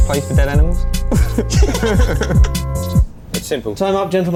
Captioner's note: laughter